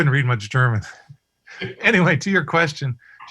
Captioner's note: laughter